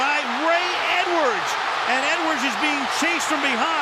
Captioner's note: cheering